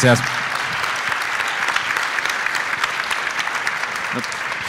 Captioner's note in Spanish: aplauso